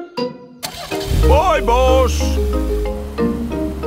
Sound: car engine starts

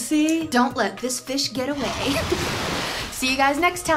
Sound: water splashing

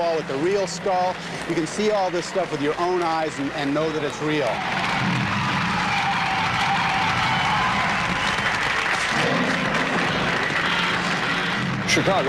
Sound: continued applause and roaring sounds

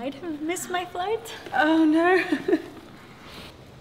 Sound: laughs

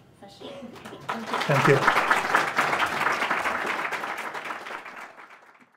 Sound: audience applauds

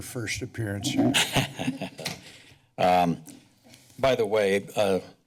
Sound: laughs

